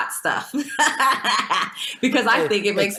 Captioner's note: laughs